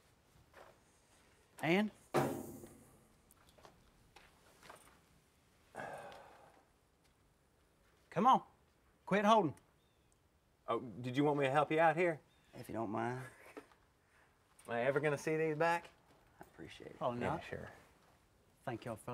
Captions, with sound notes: - And? (kicks bumper) Come on, quit holdin'. - Did you want me to help you out here? - If you don't mind? - Am I ever gonna see any of these back? - I appreciate it.